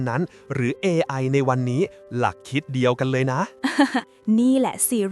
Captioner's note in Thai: หัวเราะเบาเบา